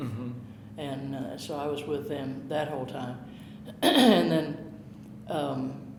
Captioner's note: clearing throat